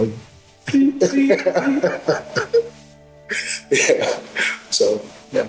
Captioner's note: laughing